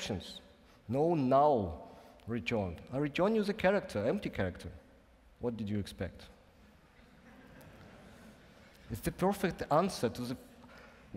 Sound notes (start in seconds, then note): 7.2 laughing